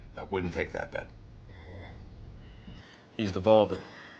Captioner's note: grunts